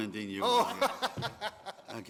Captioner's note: laughter